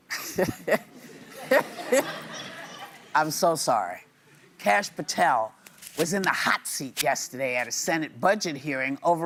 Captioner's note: laughter